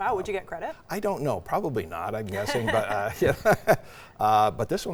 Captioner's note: laughs